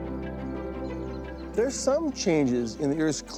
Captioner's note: birds twittering